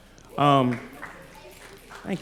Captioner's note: applause